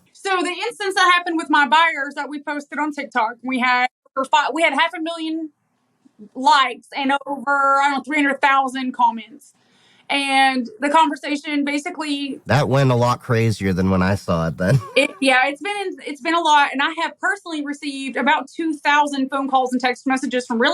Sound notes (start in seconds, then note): 12.5 laugh